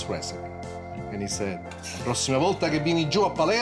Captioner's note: speaks in a foreign language